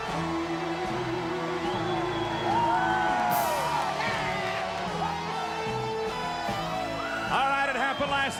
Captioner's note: crowd cheering